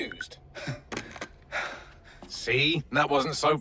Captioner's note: sighs of relief